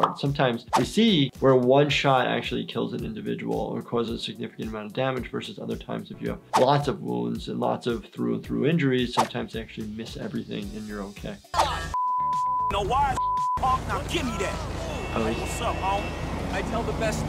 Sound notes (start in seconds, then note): 13.0 beep